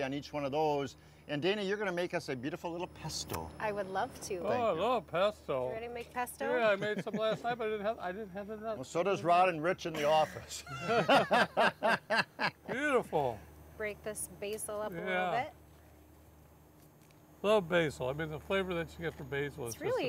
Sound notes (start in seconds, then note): 6.6 laughing; 9.9 all laughing